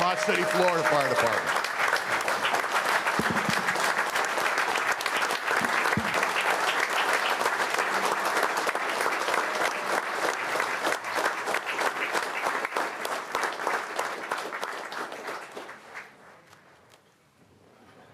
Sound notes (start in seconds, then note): 1.5 applause